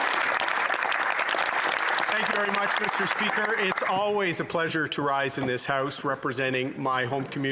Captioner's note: applause